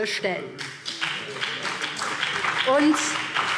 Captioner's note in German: Beifall BÜNDNIS 90/DIE GRÜNEN